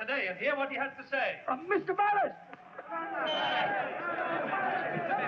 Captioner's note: crowd clamoring